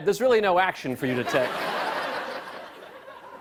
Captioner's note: laughter